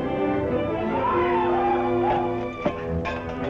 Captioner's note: war call